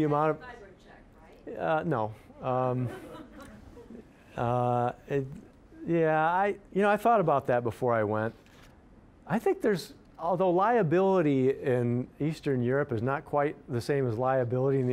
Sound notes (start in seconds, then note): 2.8 audience laughing